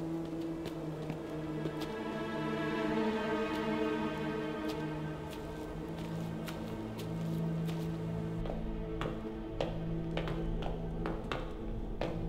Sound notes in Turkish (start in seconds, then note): 2.1 Ayak sesleri; 2.1 Müzik - Gerilim